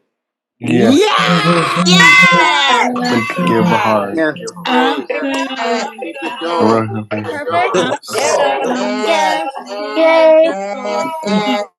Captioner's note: cheering